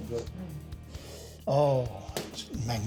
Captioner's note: sniffs